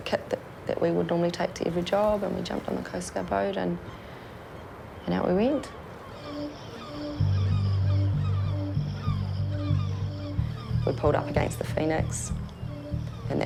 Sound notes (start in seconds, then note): 6.5 seagulls caw; 7.3 intense synth music